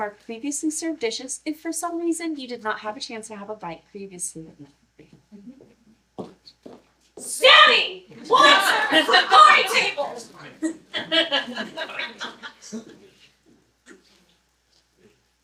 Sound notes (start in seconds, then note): 10.6 laughter